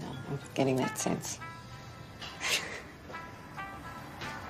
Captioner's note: chuckles